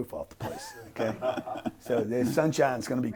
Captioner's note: laughing